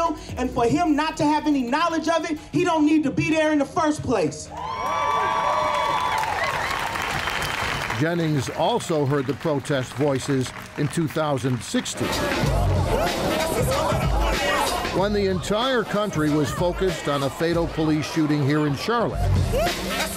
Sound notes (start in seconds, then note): 4.7 crowd cheering; 12.3 upbeat hiphop music